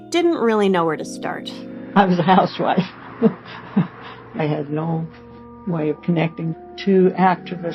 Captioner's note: laughs twice